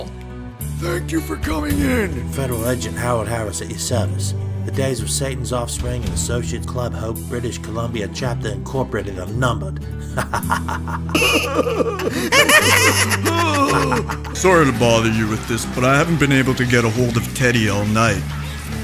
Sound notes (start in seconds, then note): 10.0 laughing; 12.3 more laughing